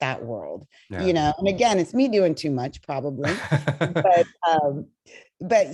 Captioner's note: laughter